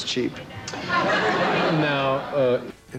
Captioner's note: audience laughter